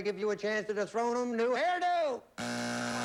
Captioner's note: buzzer